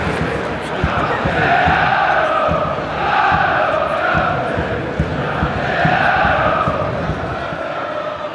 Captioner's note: The cheers of Stockport County supporters